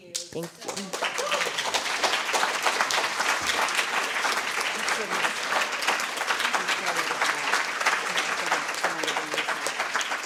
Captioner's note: applause